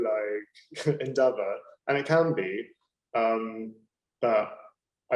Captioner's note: laughing